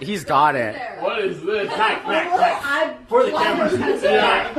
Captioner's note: laughter